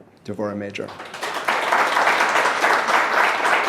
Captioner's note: applause